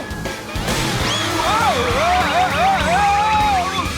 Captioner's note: screaming